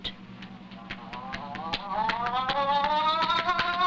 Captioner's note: yelling